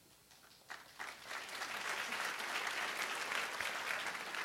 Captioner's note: applause